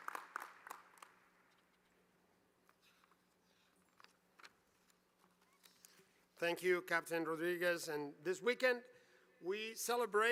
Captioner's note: applause